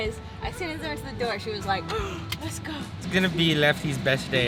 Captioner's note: gasping